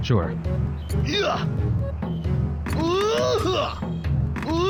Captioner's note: character grunting